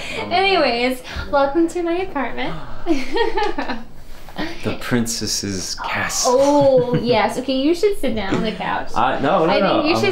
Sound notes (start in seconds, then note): 2.9 emma laughs